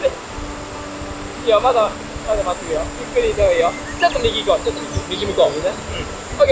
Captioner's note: laughs